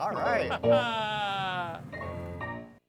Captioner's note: chuckling; upbeat keyboard music